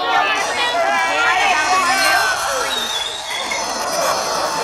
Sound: chalkboard scraping; audience laughter

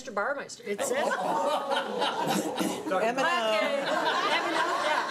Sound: everyone laughing

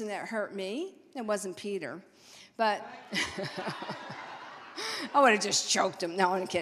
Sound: all laughing

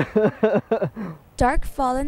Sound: laughter

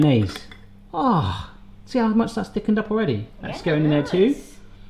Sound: groans

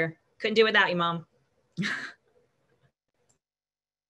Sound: laughs

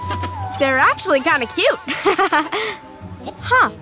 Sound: chuckles

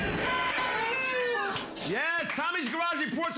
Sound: cheers and applause

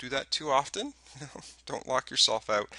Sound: chuckles

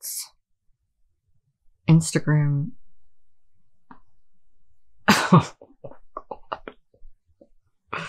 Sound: laughing

